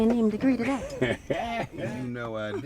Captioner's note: laughs